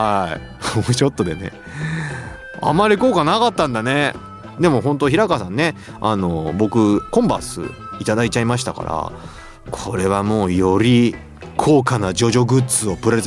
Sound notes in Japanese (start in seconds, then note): 0.3 鼻息; 1.6 息をのむ音